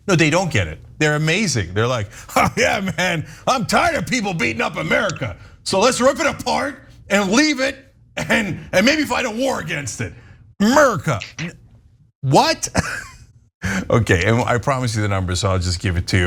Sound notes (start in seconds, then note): 2.2 laugh; 12.5 laugh